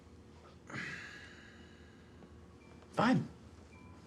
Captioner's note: Abe sighs